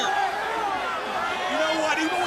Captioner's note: crowd chatter